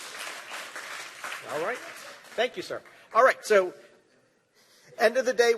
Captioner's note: applause